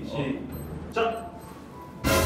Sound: beep!

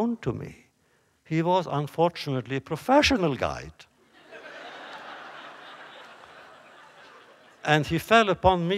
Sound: laughter

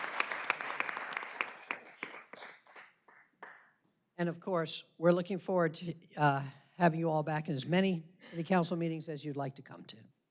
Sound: applause

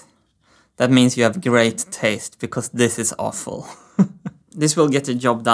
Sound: chuckles

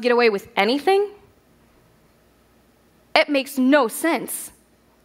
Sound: none

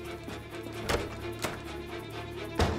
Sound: sound of door opening; door closing sound; table A pounding sound

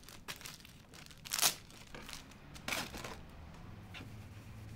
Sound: paper rips

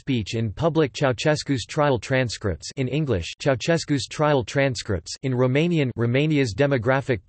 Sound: in Romanian

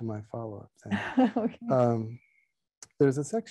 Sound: laughing

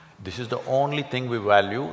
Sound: none

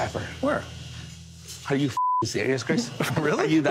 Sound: beep

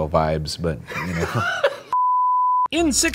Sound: laughs

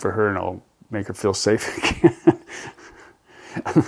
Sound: laughs

